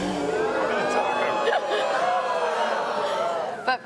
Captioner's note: audience oohs